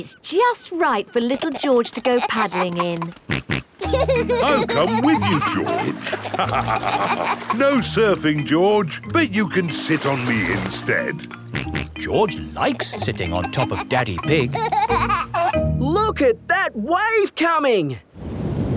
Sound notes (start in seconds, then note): 3.8 snorts and laughs; 6.6 both laugh; 11.7 snorts; 14.9 giggling